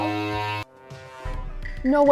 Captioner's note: horn blaring